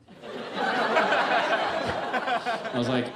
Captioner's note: audience laughs